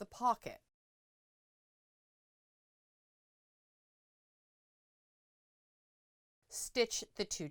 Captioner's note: no Sound Present